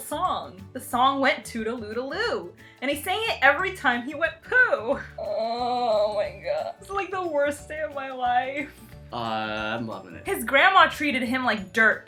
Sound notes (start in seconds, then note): 5.2 groaning